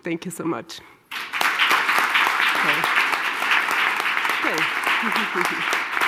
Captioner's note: applause